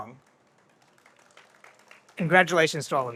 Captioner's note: audience applauds